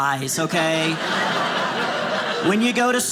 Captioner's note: audience laughing